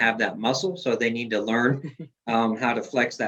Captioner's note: chuckles